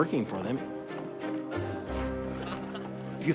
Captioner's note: laughing